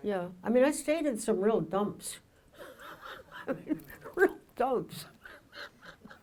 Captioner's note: laughs